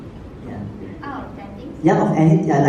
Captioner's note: speaks in foreign language